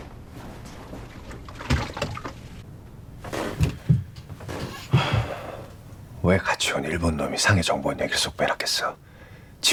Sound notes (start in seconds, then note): 0.3 approaching footsteps / Sound of liquor sloshing; 4.8 sigh